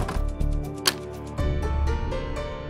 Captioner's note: door latches